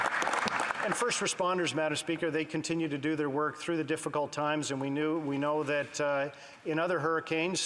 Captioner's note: applause